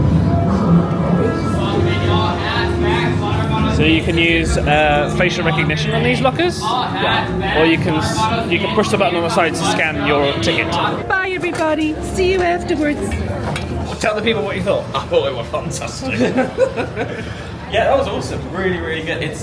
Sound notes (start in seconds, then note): 16.0 laughs